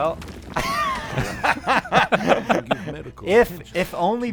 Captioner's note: laughter